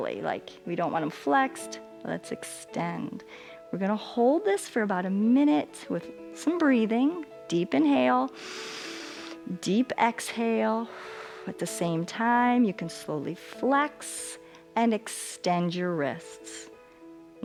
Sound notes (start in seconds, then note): 8.3 exhales; 8.3 inhales